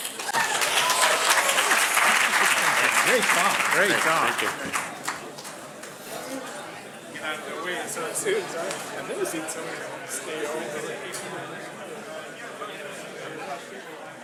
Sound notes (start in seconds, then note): 0.0 crowd applauding; 6.0 people conversing quietly